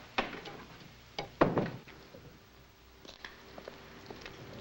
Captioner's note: door thuds shut